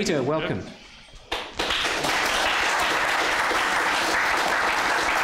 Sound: applause

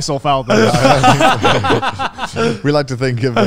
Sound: everyone laughs

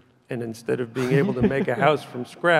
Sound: chuckles softly

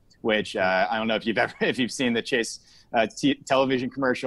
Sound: laughs

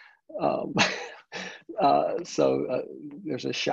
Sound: chuckles

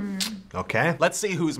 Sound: clicks tongue

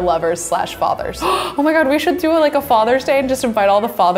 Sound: gasps

